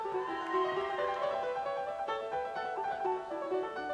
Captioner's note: audience cheers